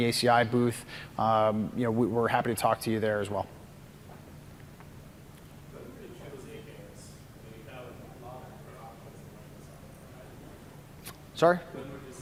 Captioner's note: off mic